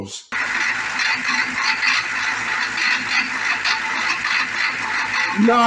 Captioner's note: engine idling